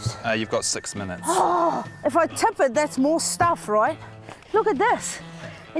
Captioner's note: groans